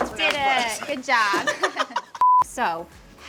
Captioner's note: laughs